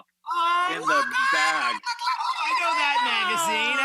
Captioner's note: screaming